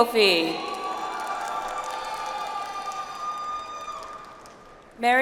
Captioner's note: audience applauds